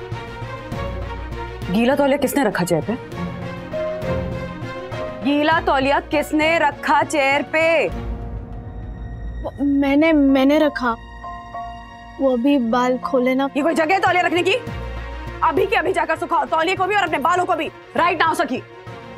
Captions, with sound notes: Who kept wet towel on the chair? Who kept wet towel on the chair? [in raised voice] I... I kept it. - I was drying my hair... - Is this the place to keep towel? Go and dry the towel and your hair, right now, Sakhi!